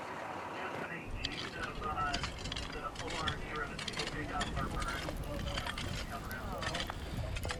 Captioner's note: fire crackling; pickaxe rasping